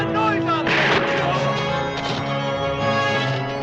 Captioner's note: gunshot